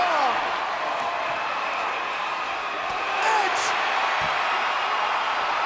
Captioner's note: applause; applause